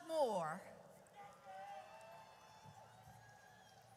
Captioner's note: audience cheers